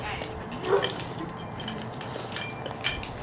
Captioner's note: dogs barking